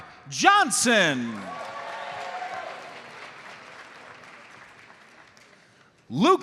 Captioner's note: audience cheers and applauds